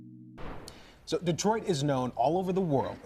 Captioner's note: logo whooshes